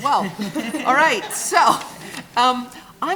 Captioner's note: chuckling